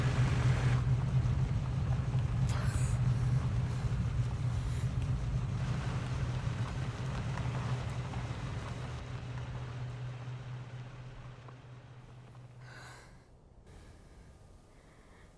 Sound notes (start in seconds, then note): 2.4 Ellie breathes heavily; 5.7 vehicle drives off